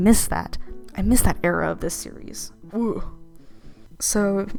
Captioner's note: a sound of pain